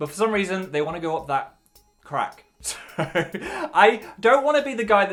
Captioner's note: laughs